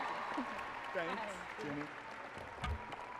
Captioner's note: applause and cheering